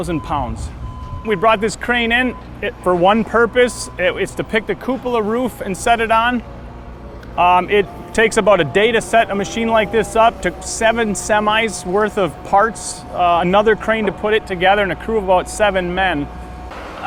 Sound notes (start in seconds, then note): 11.2 trucks